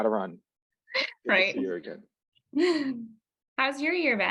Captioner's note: laughs